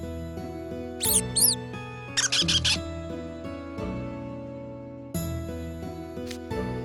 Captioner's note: squeaks